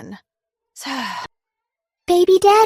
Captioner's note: sigh